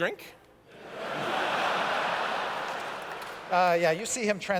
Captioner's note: laughter